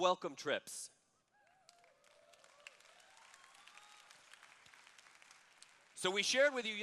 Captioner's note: applause